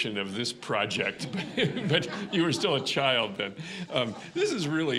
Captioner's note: audience laughing